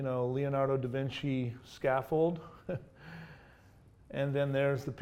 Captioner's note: laughs